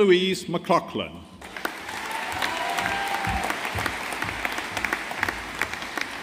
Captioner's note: audience applauding